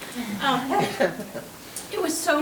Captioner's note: board members chuckling